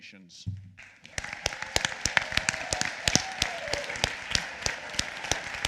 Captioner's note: applause